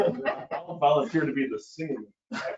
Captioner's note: laughing